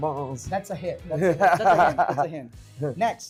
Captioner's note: laughs